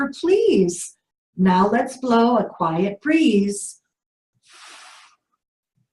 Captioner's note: blows